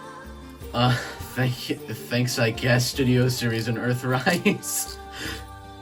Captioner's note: giggling